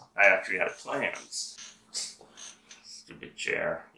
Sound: squeak

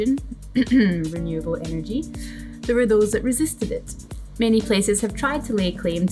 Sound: ahem

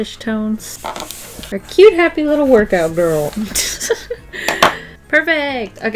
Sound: laughs

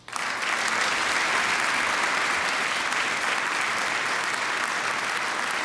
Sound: applause

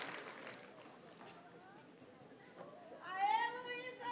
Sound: audience cheers and applauds; graduates chant

